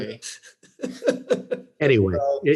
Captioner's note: all laughing